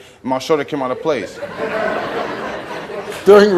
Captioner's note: audience laughs